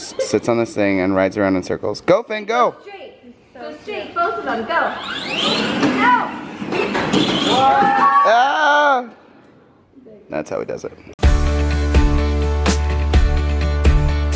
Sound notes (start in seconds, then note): 8.7 whir; 11.2 upbeat music